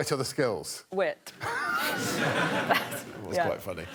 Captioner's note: laughter